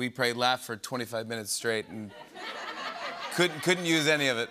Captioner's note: laughter